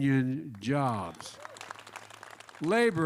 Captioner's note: applause